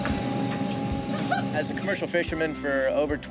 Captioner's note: laughs